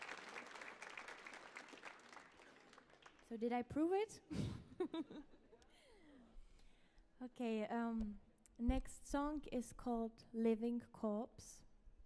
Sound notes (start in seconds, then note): 4.3 laughs